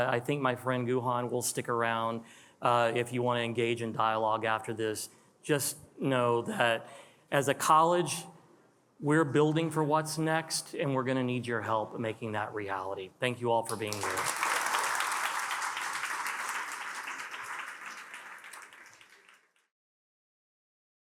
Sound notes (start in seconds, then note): 13.7 attendees applauding